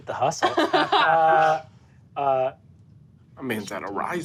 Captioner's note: laughs